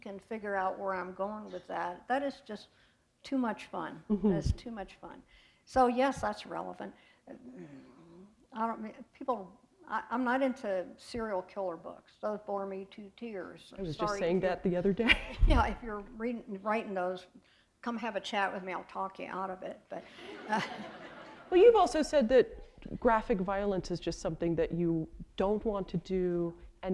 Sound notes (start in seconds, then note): 15.4 chuckle; 20.1 laughter